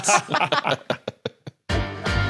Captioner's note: group laughing